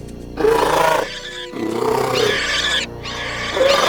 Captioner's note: anchisaurus growling